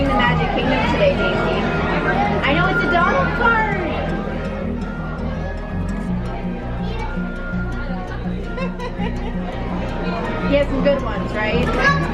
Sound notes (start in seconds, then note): 8.4 laughs